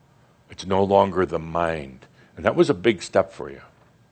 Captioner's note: none